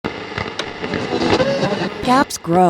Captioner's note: radio static crackling